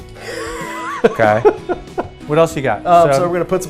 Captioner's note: laughs